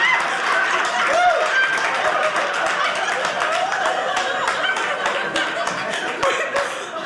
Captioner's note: audience laughing; audience cheering